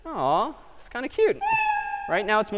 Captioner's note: meow